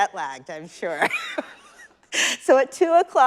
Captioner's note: chuckles